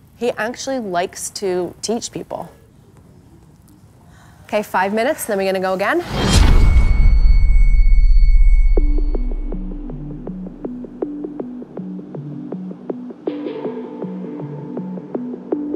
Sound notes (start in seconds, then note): 6.0 large boom resounds; 9.2 calm electronic music